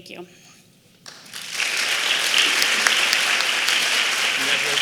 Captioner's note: applause